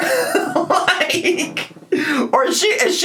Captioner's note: laughs